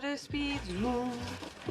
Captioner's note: humming